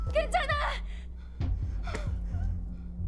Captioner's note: breathing